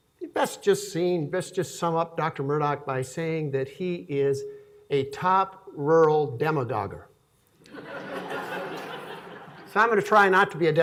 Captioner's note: laughing